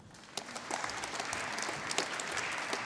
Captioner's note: applause